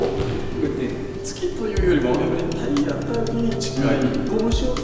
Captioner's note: punch